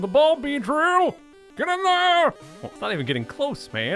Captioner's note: in a silly but angry voice